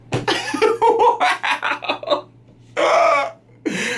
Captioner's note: laughs